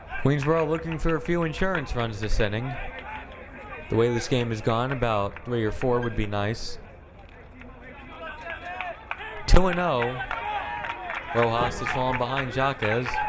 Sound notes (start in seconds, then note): 8.3 crowd cheering